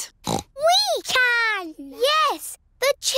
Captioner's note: snorts